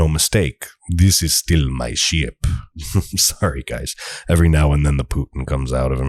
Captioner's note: Russian voice